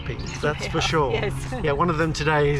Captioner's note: laughs